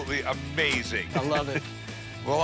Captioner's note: laughs